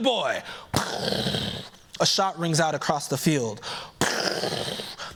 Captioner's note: mimics gunshot